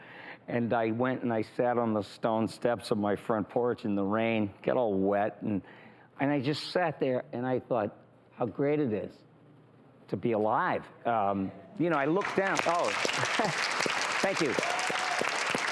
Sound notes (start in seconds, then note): 11.9 crowd applauds